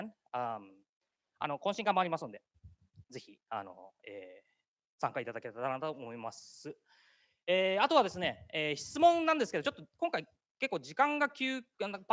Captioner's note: speaking japanese